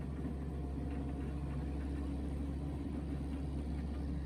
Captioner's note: engine hums